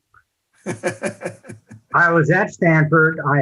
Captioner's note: laughs